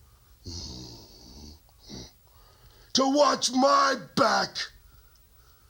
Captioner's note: grunts